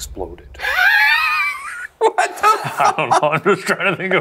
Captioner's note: laughs